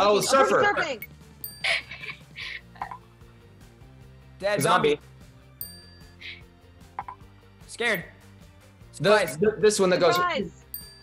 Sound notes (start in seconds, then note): 1.4 bell dings; 1.6 laughs; 5.6 bell dings; 10.7 bell dings